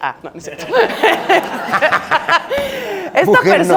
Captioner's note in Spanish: Risas